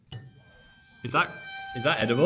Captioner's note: knife clinks; tense music